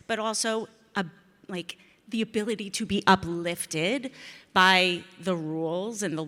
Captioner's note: none